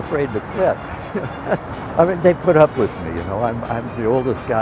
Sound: laughs

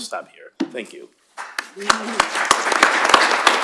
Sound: applause

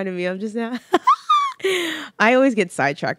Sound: laughs

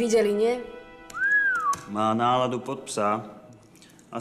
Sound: whistle

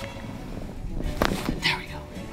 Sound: bones cracking

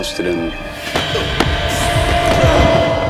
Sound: grunting

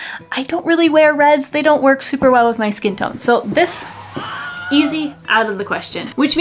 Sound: Wilhelm scream

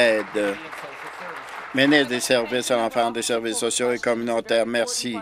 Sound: applause

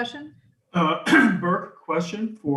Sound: clears throat

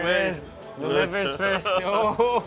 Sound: men chuckling

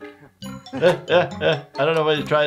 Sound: laughing

